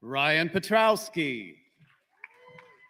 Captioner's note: applause